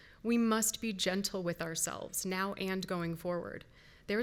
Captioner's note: none